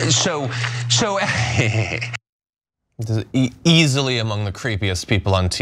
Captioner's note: laugh